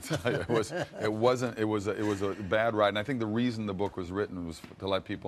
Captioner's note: both laugh